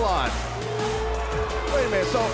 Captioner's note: cheers & boos